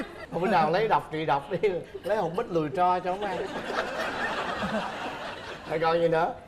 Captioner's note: laughing